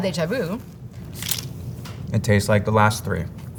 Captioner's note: mouth crunching